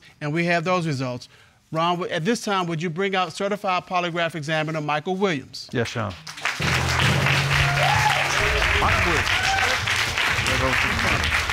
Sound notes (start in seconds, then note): 5.9 applause